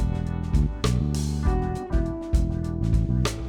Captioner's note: none